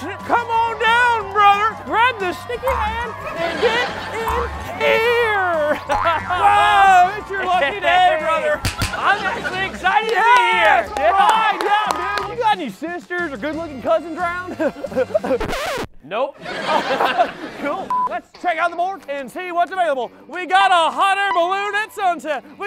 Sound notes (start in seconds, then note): 5.9 boing; 8.6 smack, smack; 14.2 goofy laughing; 15.4 record scratching